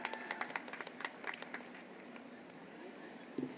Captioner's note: applause